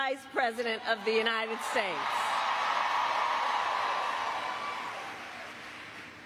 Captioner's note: crowd cheering